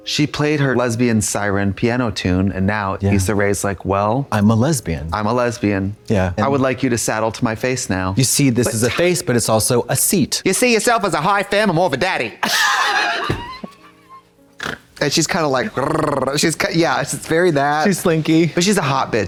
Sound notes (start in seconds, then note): 12.6 Katya snickers and snorts; 15.6 purrs